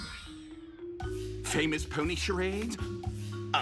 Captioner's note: snaps fingers